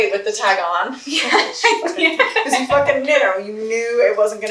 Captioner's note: laughs